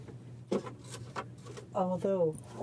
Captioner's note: speaking French